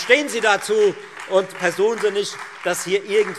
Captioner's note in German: Beifall